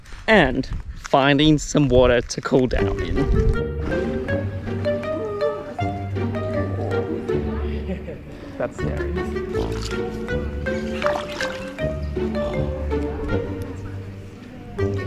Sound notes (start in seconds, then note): 3.6 inquisitive music; 10.6 water splashing